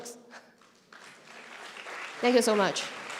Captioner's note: applause